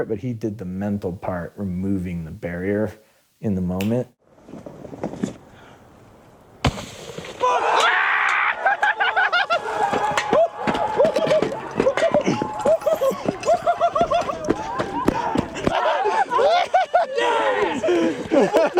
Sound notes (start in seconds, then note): 7.3 applause; 7.4 cheering; 8.3 laughter